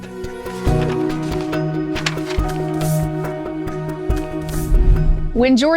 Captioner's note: gentle music; paper rustling